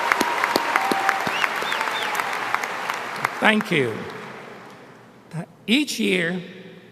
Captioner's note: applause